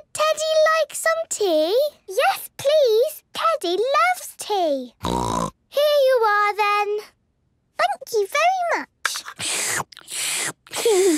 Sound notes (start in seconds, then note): 5.0 snort; 9.1 slurping; 10.9 giggles